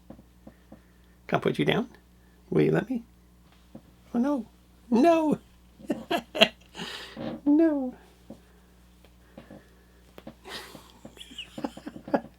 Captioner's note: laughing